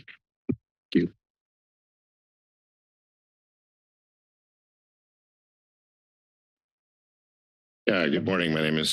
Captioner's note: silence